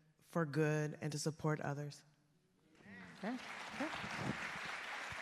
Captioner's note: applause